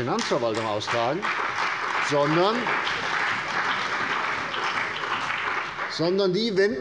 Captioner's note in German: Beifall bei der CDU, dem BÜNDNIS 90/DIE GRÜNEN und der FDP